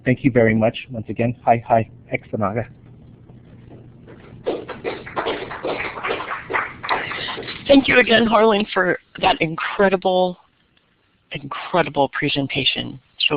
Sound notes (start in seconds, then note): 2.1 speaks in Native language; 4.1 round of Applause